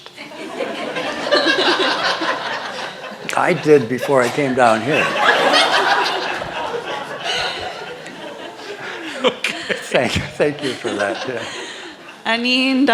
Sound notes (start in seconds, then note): 0.1 laughter; 5.0 laughter; 8.9 laughing